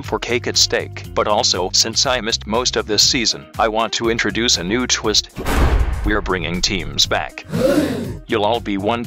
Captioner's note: gasp